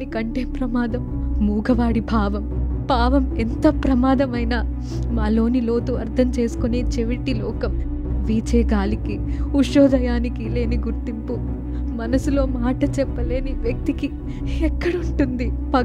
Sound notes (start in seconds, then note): none